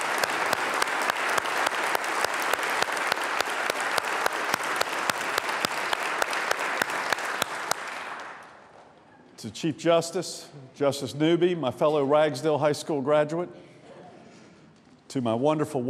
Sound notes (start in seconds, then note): 5.7 applause